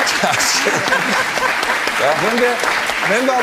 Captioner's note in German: Lachen